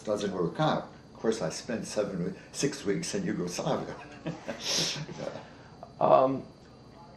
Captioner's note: chuckles